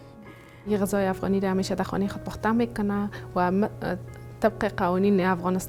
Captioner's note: woman speaks in a foreign language